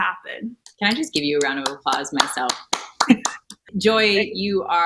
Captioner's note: clapping